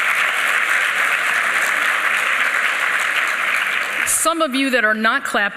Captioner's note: applause